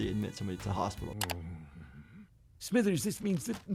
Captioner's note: clicking